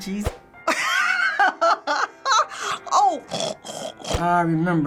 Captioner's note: laughs; snorts